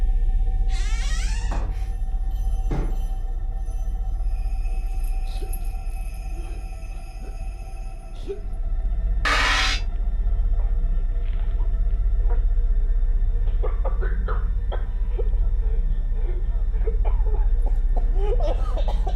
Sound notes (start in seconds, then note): 0.6 door creaking; 5.1 gentle tense music; 5.1 victim whimpering; 9.2 sudden screeching music; 12.6 gentle tense music; 13.4 victim coughing